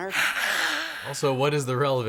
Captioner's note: Maureen hisses